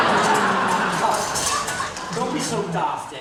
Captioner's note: audience laughing